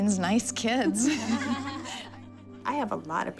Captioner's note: laughter